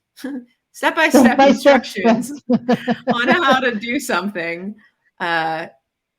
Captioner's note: chuckles